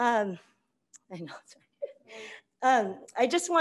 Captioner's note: faintly speaking